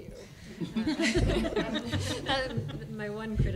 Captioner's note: laughter